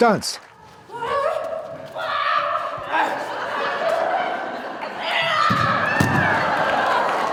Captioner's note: fans clapping; person screaming